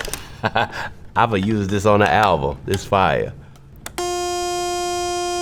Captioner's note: laughs; synth plays